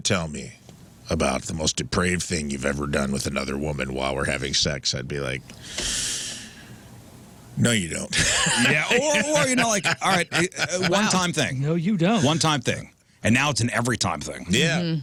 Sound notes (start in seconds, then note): 8.1 laughs